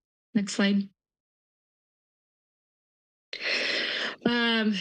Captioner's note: pause